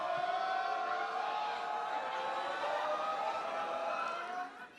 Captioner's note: crowd response